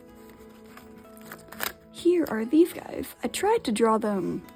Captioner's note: crackle